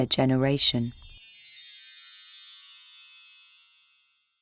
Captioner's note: chimes ringing